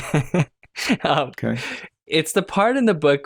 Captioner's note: laughter